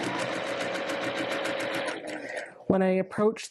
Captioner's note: sewing Machine Noises